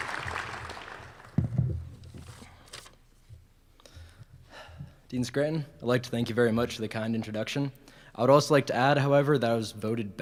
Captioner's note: applause